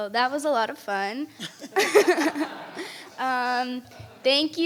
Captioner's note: board members laugh; audience laughs